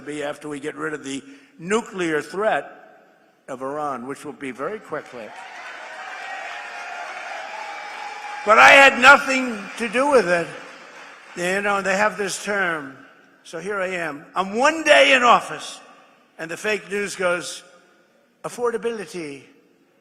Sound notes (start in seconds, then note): 12.7 applause